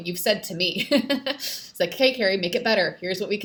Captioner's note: laughs